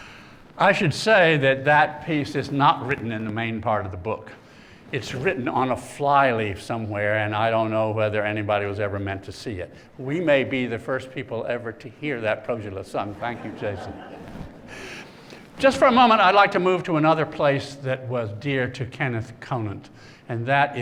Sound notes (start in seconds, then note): 13.1 laughter